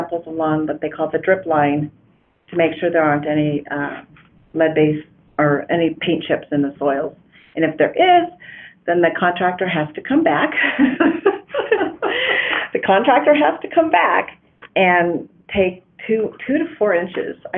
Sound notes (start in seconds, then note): 10.6 laughing